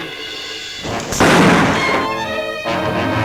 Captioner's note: gun bangs; tense music